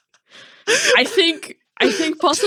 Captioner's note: laughing